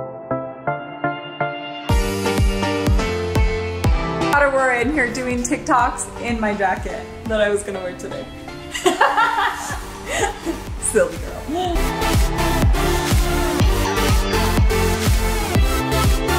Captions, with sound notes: Caught Aurora in here doing TikToks in my jacket that I was gonna wear today. (laughs loudly) Silly girl. (upbeat lively music continues)